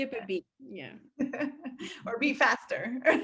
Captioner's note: laughing